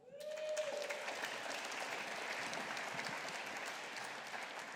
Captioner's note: audience applauding